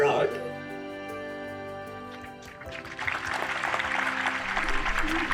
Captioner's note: crowd clapping, soft music